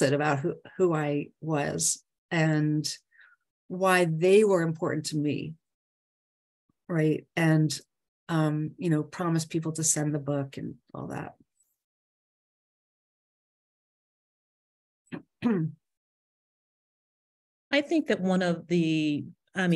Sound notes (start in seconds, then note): 15.5 clears throat